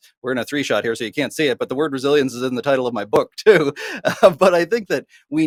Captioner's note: laughing